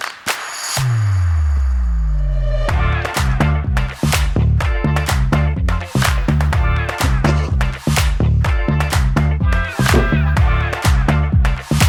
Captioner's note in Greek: χειροκρότημα